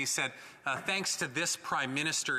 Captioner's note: speaking French